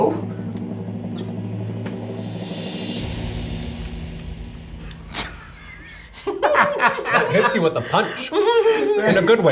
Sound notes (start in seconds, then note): 5.2 laughs